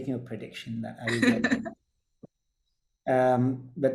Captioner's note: chuckles